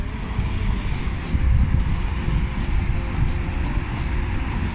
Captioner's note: heavy traffic